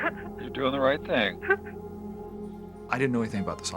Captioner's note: woman sobs